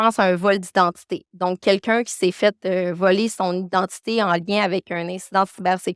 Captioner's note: continues speaking French